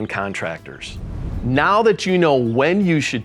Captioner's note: air whooshing